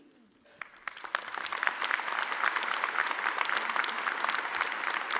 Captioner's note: audience applauding